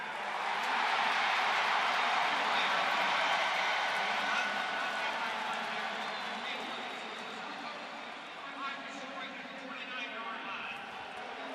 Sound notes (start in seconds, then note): 0.0 cheers, applause; 3.7 referee call